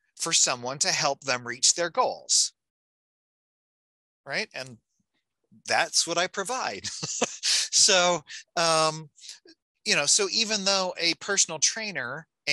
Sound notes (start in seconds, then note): 6.5 laughing